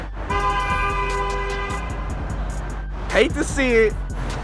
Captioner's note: car honking